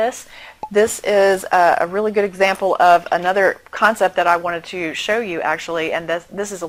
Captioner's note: pop